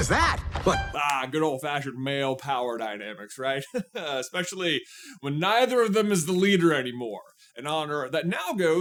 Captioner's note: chuckle